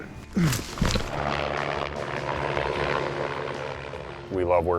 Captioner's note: helicopter whirring